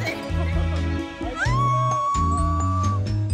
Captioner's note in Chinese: 继续欢呼中